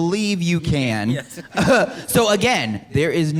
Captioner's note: laughs